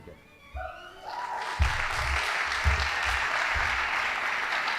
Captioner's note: audience applauding